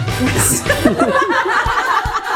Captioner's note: laughter